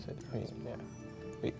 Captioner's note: ding